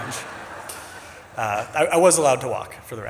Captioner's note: audience laughs